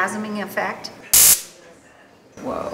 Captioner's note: loud buzz of stun gun